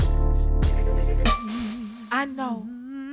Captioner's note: chill hip hop music; man humming